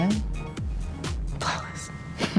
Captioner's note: giggles